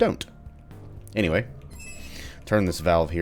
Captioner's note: valve squeaks